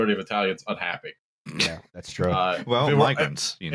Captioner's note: snorts